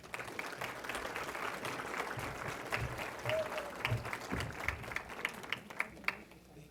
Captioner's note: applause